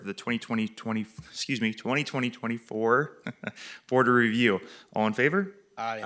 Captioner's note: chuckles